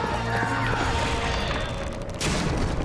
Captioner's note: horse galloping; wood breaking